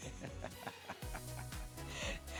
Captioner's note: laughing